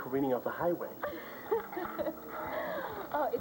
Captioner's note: regular voice